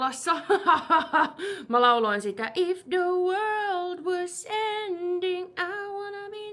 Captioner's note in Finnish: naurua